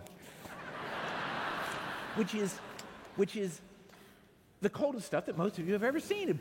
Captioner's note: laughter